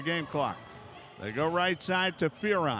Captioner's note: yelling